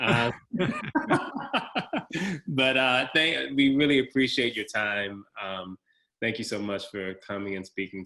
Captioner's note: laugh